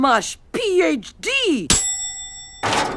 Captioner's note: bell dings